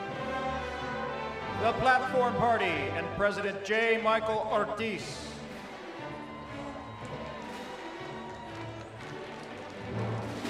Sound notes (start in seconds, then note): 3.3 applause